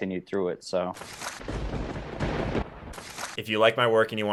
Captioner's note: lightning crashes